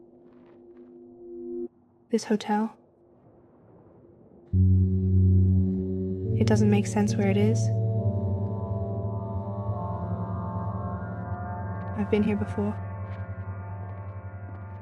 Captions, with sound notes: This hotel. (ominous ambient music) It doesn't make sense where it is. I've been here before. (footsteps)